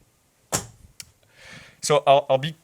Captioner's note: object thuds